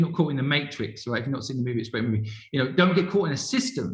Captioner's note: murmurs